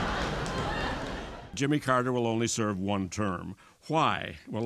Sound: laughter

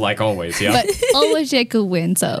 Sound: laughs

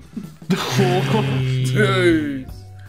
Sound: group oohing

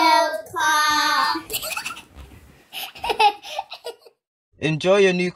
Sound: triplets laugh

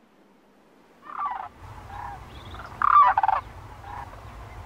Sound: birds chirping

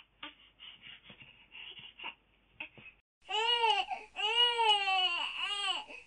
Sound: baby Crying

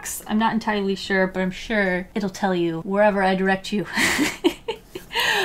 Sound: laughs

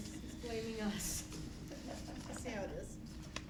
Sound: laughter

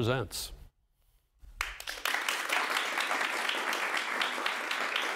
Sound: audience applauding

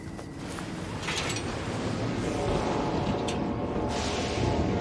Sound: thunder

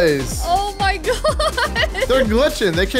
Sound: laughs

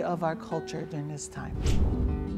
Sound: air swishes

